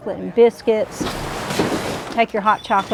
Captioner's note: footsteps